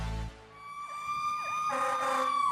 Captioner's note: sirens wailing